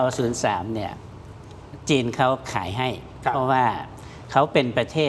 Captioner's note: none